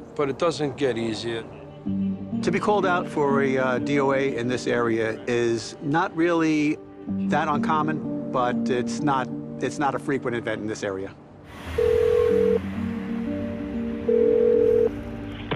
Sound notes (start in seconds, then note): 11.6 phone rings